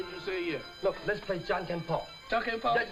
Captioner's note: speaking in foreign language